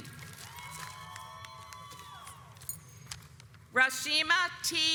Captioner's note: audience applauds